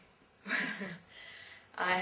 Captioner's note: laugh